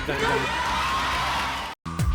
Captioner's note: audience shouting